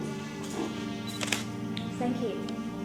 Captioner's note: shutter clicking